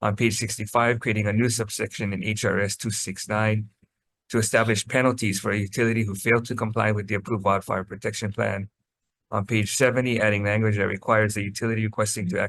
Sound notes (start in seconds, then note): none